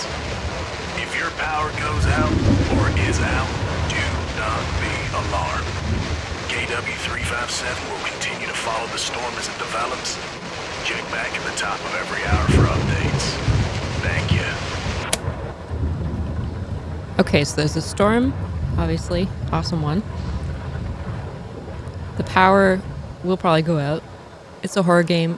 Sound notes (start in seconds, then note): 15.6 radio off